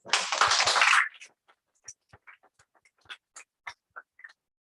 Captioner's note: applause